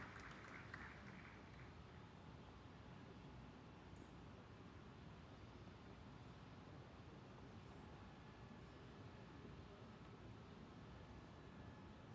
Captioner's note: applause